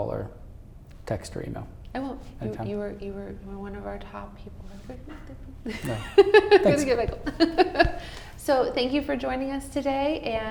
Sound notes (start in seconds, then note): 4.8 voice muffled; 5.6 laughing